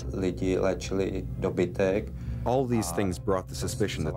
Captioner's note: speaking Czech